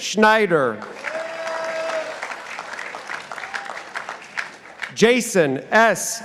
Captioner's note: participants applauding